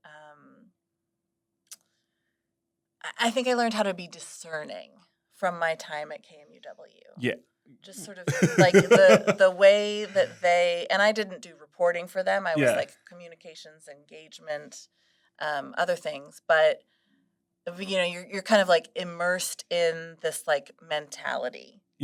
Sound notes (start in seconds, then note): 8.0 laughs